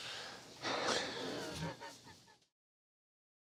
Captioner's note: laughter